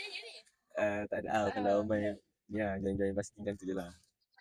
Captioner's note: laugh